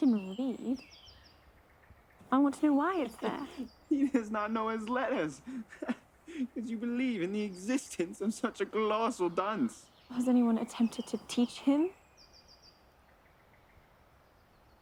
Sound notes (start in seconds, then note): 4.8 laughs